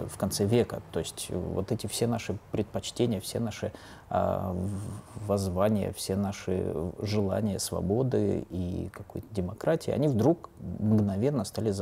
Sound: speaking russian

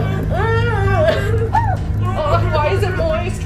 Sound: creepy carnival music; muffled screaming

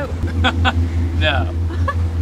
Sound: chuckling

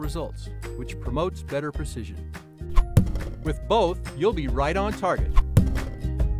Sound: sound of arrow landing

